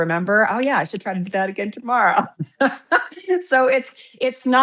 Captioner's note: laughs